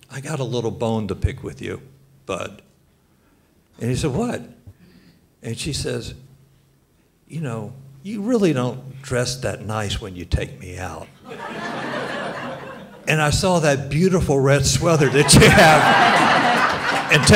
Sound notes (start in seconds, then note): 11.2 audience laughs